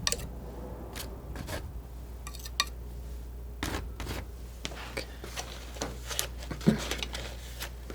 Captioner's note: scratching; scratching